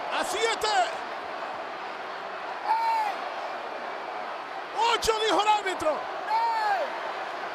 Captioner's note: applause